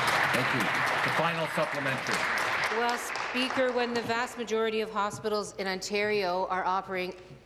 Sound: applause

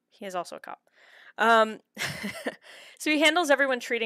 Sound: laughter

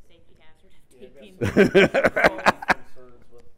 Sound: laugh

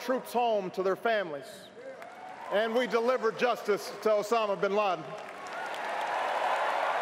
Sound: applause

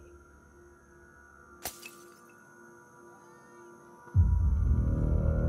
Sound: glass shatters

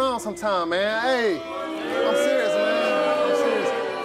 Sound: audience booing

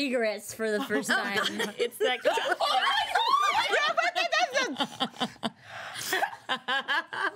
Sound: girls squealing and laughing

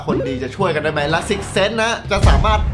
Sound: pat

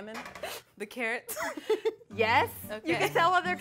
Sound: both laughing

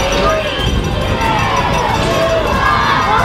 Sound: crowd

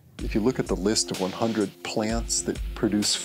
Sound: voiceover

